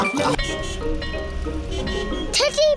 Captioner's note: all laughing; car horns beeping